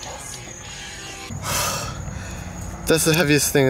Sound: gasps

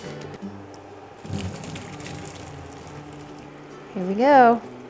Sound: noodles sloshing

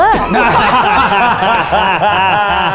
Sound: guys laughing

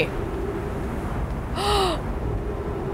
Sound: gasp

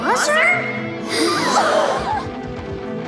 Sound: crowd gasps

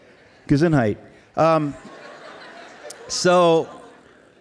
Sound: laughs; laughs

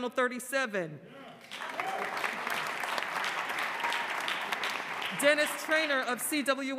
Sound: applause

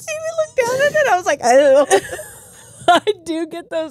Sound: groans

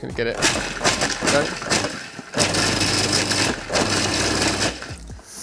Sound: blender chopping

